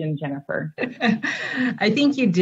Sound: laughs

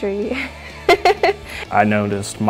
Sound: laughter

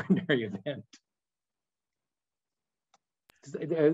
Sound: chuckles

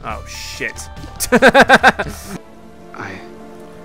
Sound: laughs

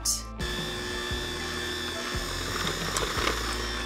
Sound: whirring

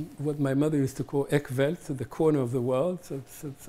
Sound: hebrew

